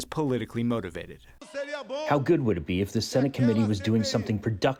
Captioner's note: through translator